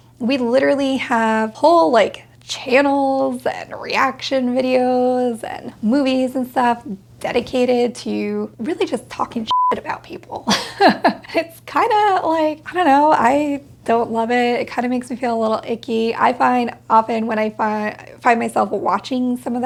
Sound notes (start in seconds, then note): 9.5 beep; 10.5 laughs